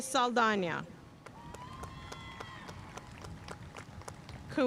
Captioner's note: audience cheering and applauding